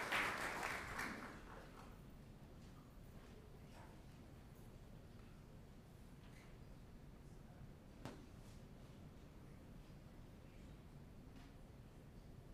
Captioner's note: applause